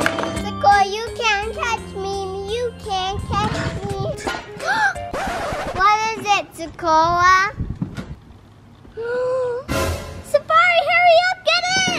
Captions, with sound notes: Sekora you can't catch me You can't catch me [Gasp] What is it Sekora? Sefari, hurry up, get in!